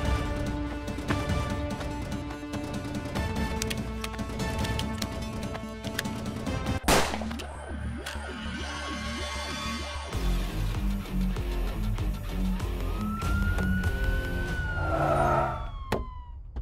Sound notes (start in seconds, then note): 6.8 Gun shot; 12.8 Siren; 14.8 Car halts